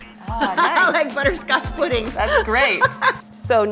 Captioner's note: laughing